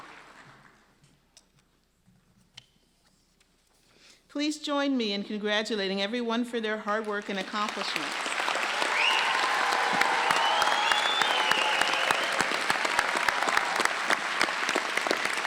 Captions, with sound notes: Please join me in congratulating everyone for their hard work and accomplishments. (applause)